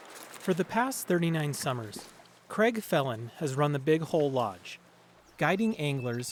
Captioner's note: voice-over